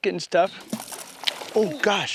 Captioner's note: splash